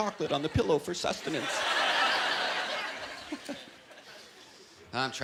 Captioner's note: chuckling